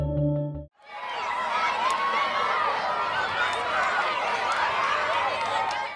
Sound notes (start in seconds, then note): 0.8 children laughing